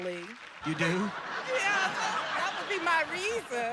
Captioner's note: audience laughing